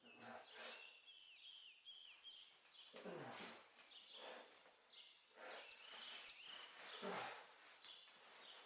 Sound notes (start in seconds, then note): 1.7 birds chirping